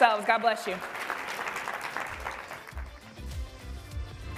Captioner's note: applause